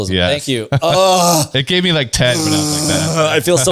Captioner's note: laughs